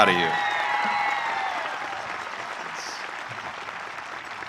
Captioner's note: audience cheering